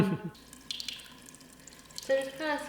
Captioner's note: laughs; water runs